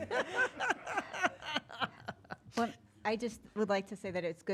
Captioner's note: laughing